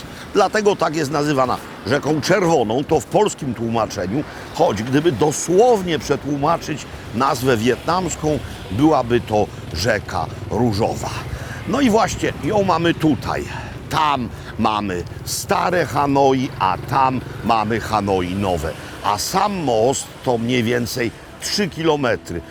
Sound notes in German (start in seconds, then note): 4.4 auf Polnisch